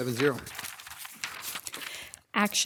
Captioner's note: papers rustling